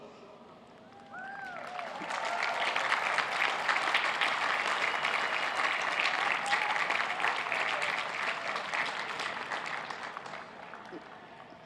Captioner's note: cheers and applause